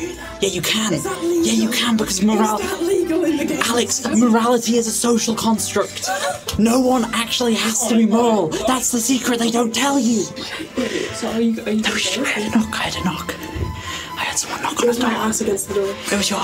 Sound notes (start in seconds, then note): 13.5 whispering